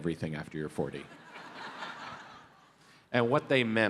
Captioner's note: audience laughs